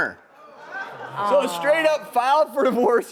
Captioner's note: audience shouting